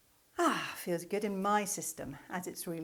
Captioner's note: deep sigh